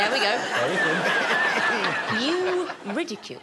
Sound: all laughing

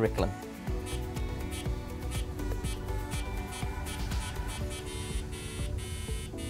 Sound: increasingly paced AdaFruit beeps

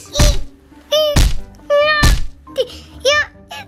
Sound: shrieks

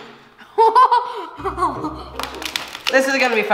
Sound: laughs

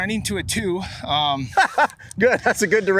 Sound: laughing

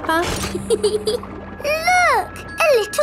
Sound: peppa giggles

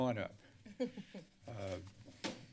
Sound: chuckles

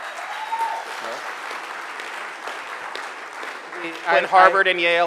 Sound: audience cheering

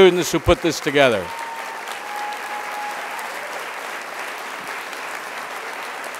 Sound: crowd applause

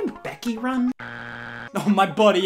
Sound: buzzer beeps

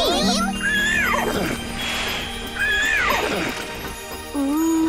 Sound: neighing

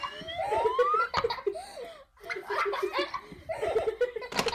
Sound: children laughing

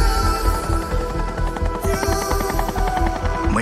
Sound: helicopter whirring

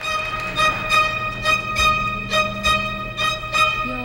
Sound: audience applauding

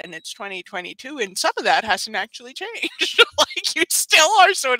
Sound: laughs

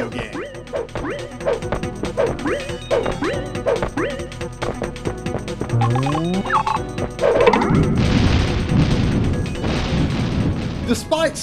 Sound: game audio

